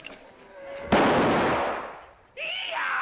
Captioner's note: gunshot